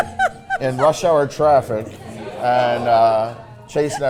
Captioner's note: Mrs. Claus laughing